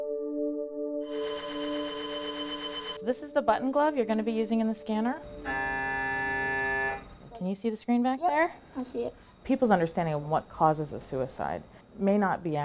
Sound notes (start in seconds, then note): 1.1 machine blaring; 5.3 machine beeping